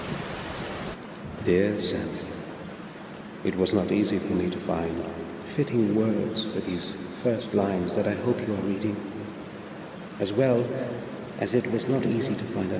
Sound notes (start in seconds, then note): 0.0 rain sounds in the background